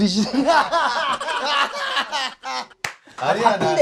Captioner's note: hahahaha